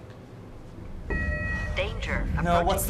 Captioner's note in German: Alarm